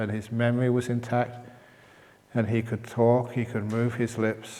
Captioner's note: none